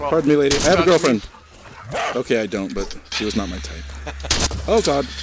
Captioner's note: laughs